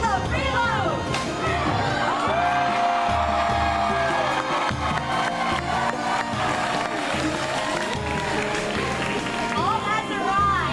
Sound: audience Claps and Cheers

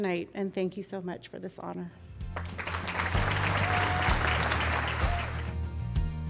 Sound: applause and music

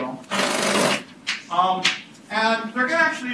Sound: drill buzzing

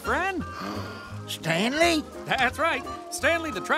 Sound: gasping

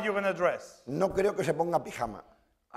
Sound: speaking spanish

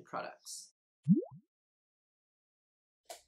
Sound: bloop noise

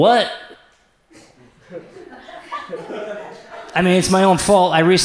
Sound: audience laughs

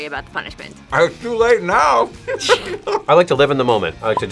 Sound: laughs

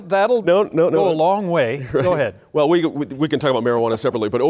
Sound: laughter

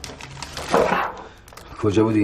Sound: thud

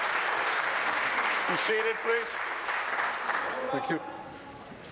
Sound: applause

